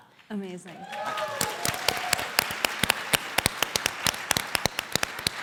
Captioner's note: audience applauding